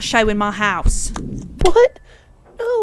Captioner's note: TV clicks off